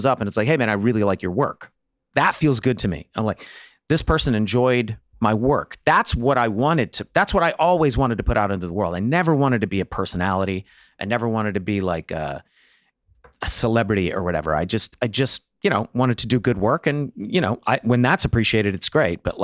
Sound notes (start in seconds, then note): none